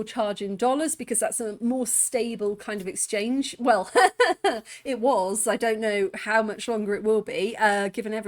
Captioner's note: laughing